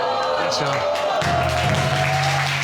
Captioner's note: audience exclaiming